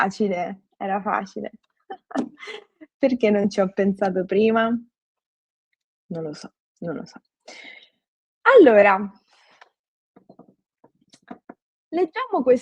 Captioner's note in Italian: risate